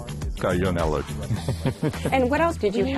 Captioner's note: chuckles